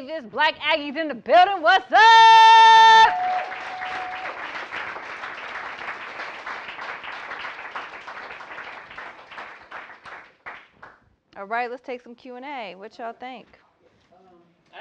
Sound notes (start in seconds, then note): 3.0 applause